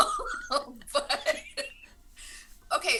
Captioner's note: laughs